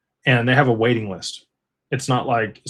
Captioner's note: none